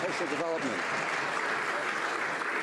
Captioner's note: some Applause